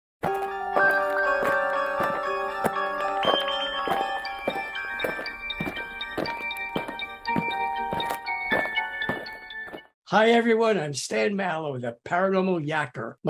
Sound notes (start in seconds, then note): 0.2 eerie music; 4.7 aliens marching